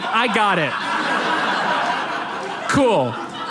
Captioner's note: audience laughs